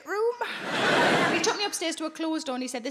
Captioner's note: audience laughing